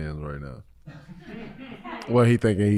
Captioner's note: staff laughs